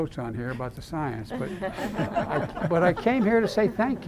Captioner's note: laughter